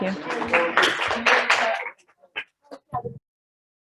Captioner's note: audience claps